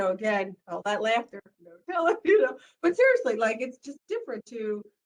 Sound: laughter

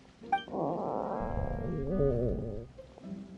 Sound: stomach grumble

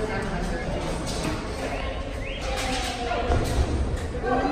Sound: people talking and bird chirping

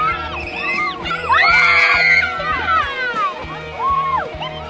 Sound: excited shouting

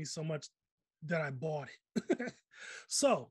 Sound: laughs

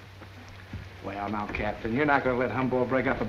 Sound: none

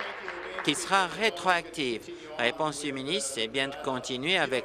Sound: applause

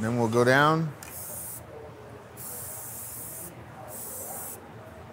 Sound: spray can hissing

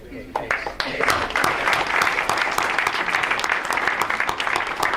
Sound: audience applauds

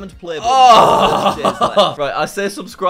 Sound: laughs

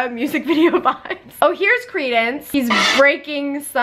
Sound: giggles

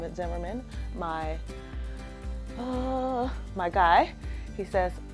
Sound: sighs

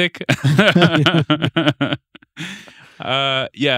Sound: both laughing

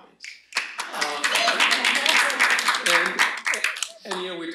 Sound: applause

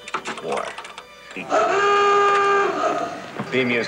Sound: klaxon wailing

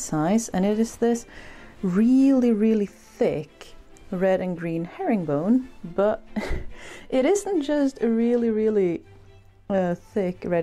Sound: laughs

